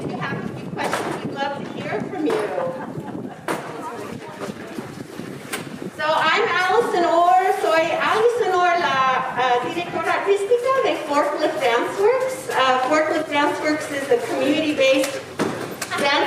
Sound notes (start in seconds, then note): 4.4 people chattering; 8.0 speaking in foreign language